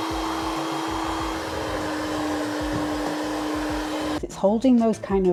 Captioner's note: hand mixer whirring